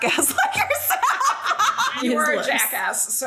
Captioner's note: laughing loudly